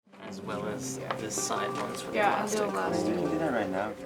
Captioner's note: workshop murmuring